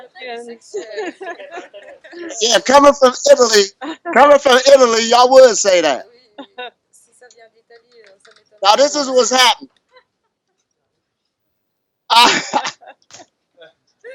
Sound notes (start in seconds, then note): 0.0 everyone laughs; 8.0 laughs